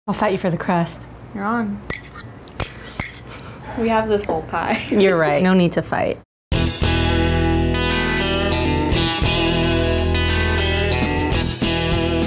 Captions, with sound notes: - I'll fight you for the crust. - You're on. (metal clinking) We have this whole pie. - You're right, no need to fight. (upbeat country music)